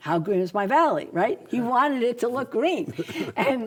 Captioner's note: laughs